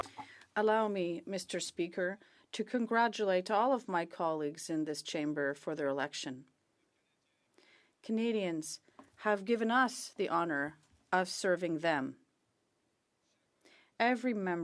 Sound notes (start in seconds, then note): 2.4 speaking French